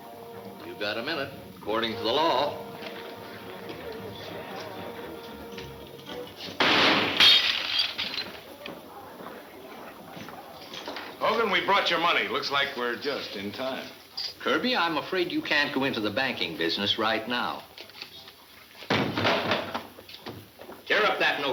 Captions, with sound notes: - You've got a minute, according to the law. (gunfire pops) (glass shuttering) - Hogan, we brought your money. Looks like we're just time. - Kirby I'm afraid you can't go into the banking business right now. Tear up that note Hogan.